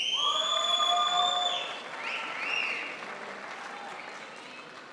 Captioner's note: crowd applauds